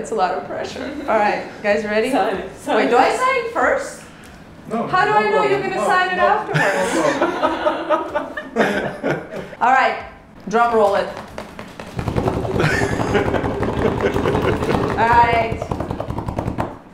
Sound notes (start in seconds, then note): 1.7 laughs; 9.5 laughs; 11.1 tapping; 14.9 laughing